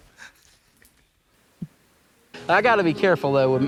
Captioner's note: crinkles